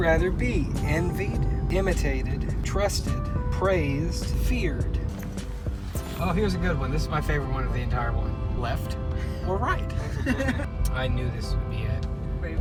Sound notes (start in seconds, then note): 10.0 laughter